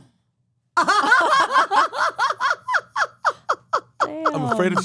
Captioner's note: laugh